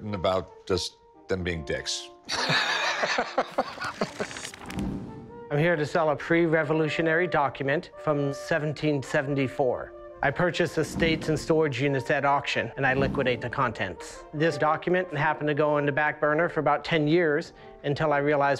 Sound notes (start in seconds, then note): 2.3 laughs